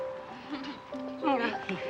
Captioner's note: laughs